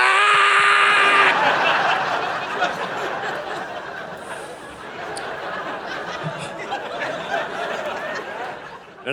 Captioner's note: audience laughing